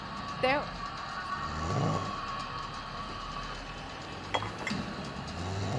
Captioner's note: Teo snoring